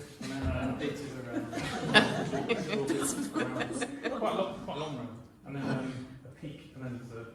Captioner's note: laughter